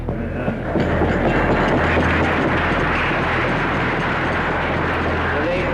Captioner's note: audience applauding